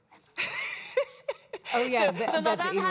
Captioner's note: laughing